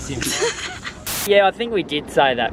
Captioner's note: laughter